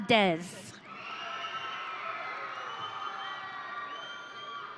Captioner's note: audience cheering